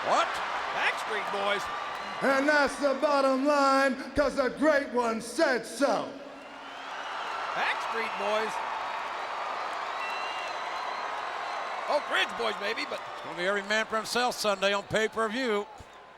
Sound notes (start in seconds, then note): 6.5 audience cheering